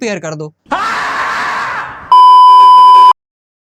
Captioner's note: Cheekhne ki aawaz